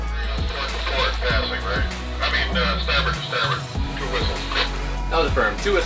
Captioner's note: distorted chatting over radio